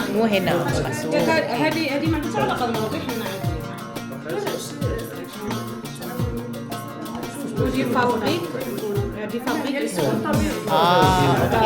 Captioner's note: speaking Arabic